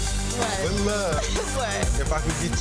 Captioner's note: intense hip-hop music; laughs